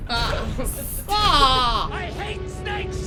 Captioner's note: groans